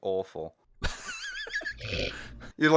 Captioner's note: laughter